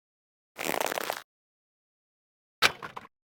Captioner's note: squeeze